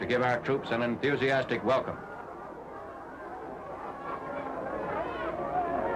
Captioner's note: crowd chattering